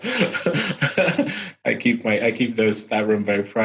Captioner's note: laughing